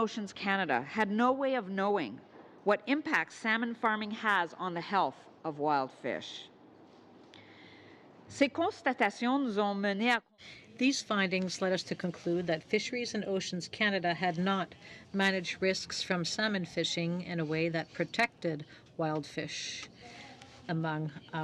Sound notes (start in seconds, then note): 13.0 speaking French